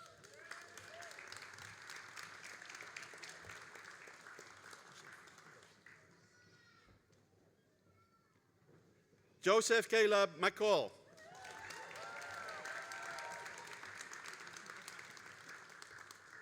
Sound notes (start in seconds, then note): 0.0 all applauding; 11.1 all applauding and cheering